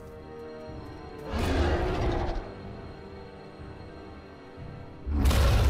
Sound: dinosaur roar; dinosaur roar

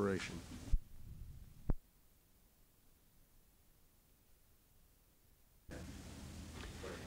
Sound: silence

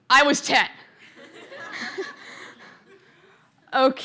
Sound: laughter

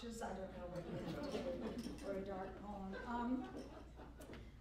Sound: laughter

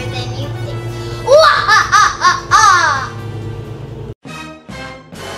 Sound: laughs loudly; spooky music

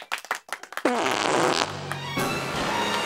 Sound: fart echoes on p.a

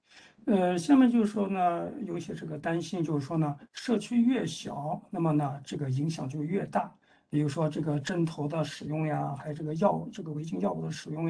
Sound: speaks in Mandarin

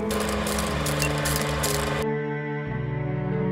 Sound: camera whirring; music continues

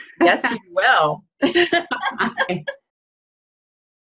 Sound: laughing

